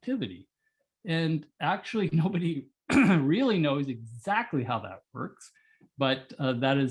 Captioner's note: cough